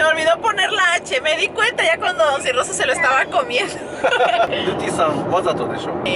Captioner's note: laughs